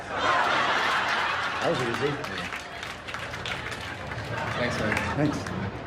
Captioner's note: laughter